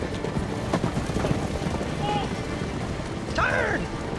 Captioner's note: galloping